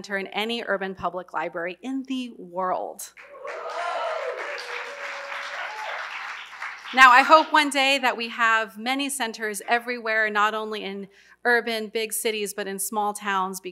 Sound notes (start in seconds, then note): 3.1 applause